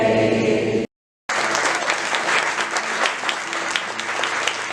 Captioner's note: applause